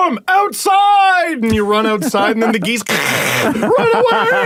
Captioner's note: hiiiisssss!!!